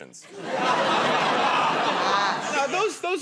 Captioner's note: laughter